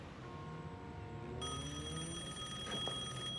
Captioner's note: telephone rings